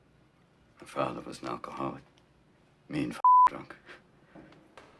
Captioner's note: beep